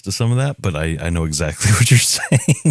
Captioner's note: laugh